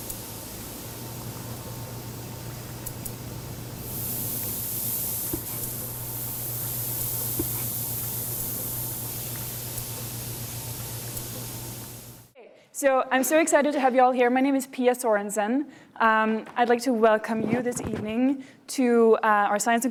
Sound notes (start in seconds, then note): 3.5 sizzling